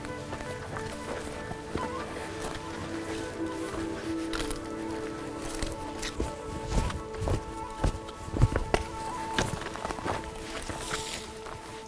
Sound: sounds of boots hiking across dry ground

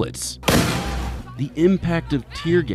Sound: explosion

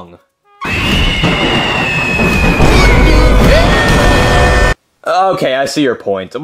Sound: woman screaming; thunder rumbling

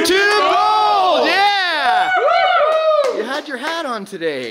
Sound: whooping

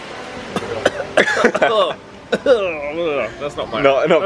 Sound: splutters

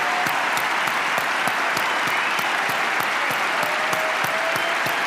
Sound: applause

